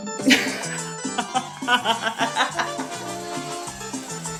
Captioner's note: laughs